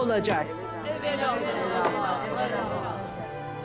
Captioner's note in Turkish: Hep bir ağızdan